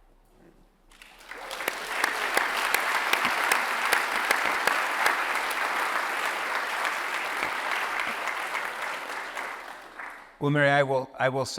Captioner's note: applause